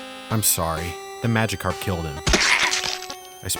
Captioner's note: screams